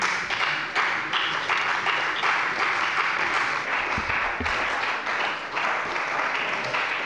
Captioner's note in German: Beifall bei der CDU und dem BÜNDNIS 90/DIE GRÜNEN